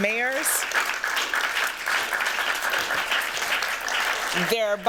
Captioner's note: applause